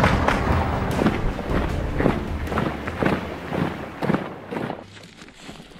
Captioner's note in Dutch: marcherende voetstappen